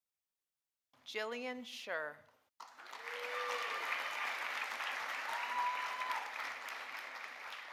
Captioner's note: audience applauding